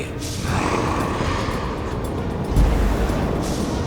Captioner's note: growling